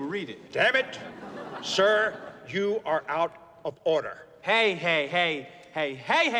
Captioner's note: crowd Laughing